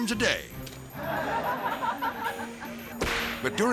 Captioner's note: people laughing